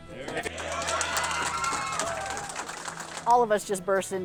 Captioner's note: crew applauding and cheering